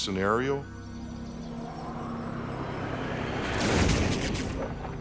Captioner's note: wind howling